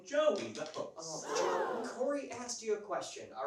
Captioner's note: audience gasps